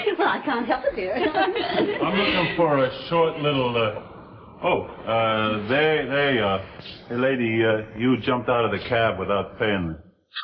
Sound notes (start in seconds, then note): 0.9 Veta and Myrtle laughing